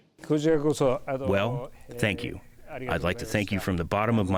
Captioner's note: through translator